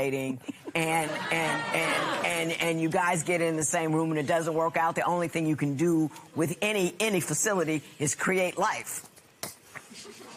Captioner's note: laughter